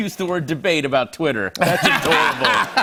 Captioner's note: laughter